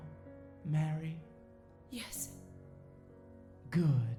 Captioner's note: whispering